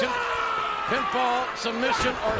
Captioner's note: Umaga screams